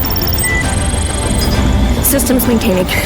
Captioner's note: water bubbling; system beeping